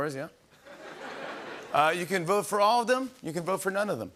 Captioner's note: laughter